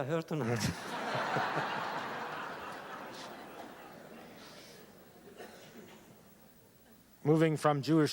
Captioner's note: laughter